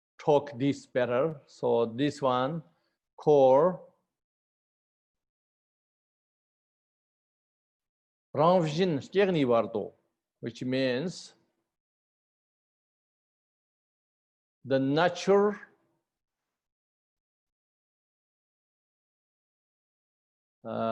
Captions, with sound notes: talk this better. So this one called [Tibetan] rangshyin, Kyenay bardo, which means The natural